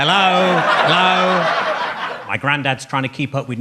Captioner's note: audience laughs